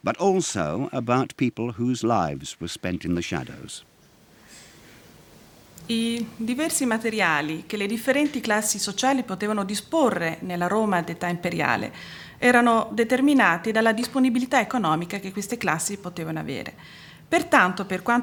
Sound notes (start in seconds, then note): 5.8 speaking Italian